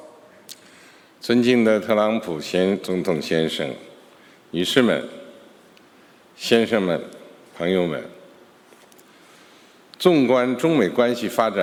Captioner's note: speaking Mandarin Chinese